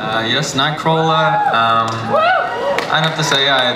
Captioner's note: audience cheers